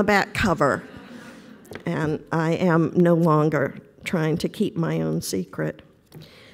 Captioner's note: laughter